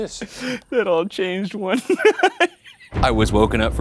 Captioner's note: laughing